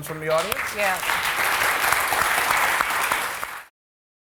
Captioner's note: applause